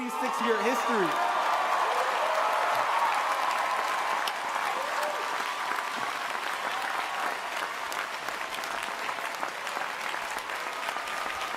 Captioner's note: cheering and applause